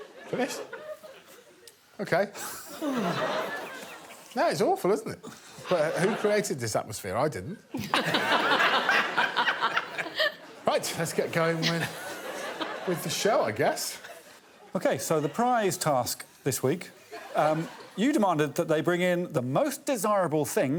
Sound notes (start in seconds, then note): 2.8 sighing in relief; 5.0 audience laughing; 7.8 all laughing